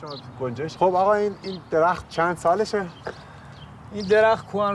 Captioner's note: they speak Farsi